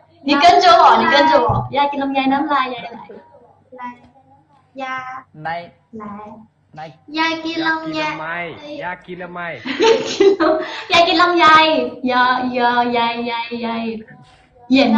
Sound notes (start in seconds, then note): 8.8 speaking Thai